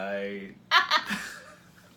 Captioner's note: laughs